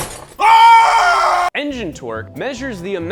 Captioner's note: yells